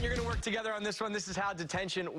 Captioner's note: cheers and applause